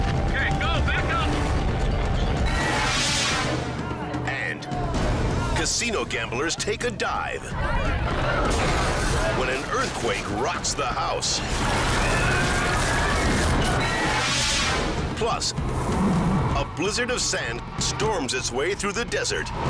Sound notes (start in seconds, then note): 2.4 air whooshes; 8.5 glass shatters; 11.3 bystanders clamor; 11.3 earthquake rumbles; 13.7 air whooshes